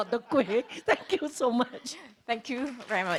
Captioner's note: laughs